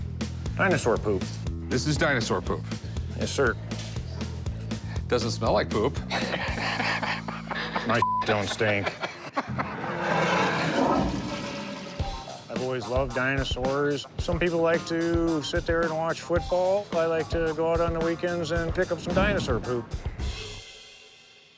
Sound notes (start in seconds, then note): 6.0 laughs; 10.0 toilet flushing